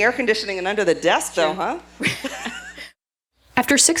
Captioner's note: laughs